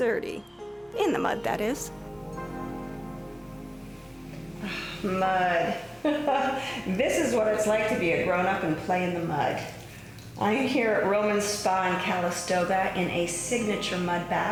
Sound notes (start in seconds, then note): 4.6 sighing